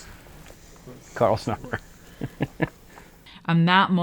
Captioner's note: laughs